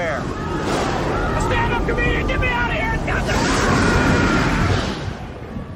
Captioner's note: despair scream